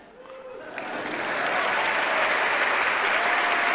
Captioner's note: applause